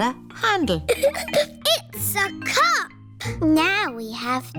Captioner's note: giggles